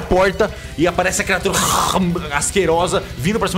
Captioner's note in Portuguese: rawr